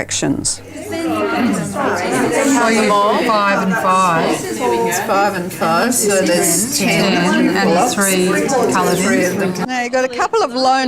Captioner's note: audience chatter